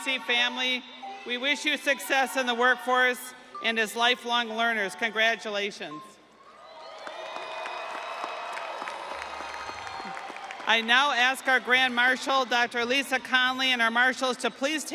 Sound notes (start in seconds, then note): 9.6 audience applauding; 9.6 audience cheering